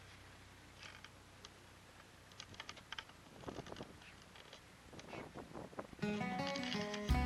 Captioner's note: creaking noise - sound